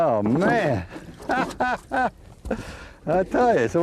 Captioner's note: laughter